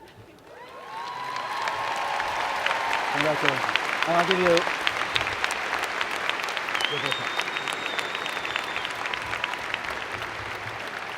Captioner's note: cheers and Applause